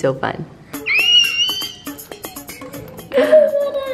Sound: squeals

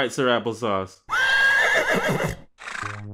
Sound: horse neighs

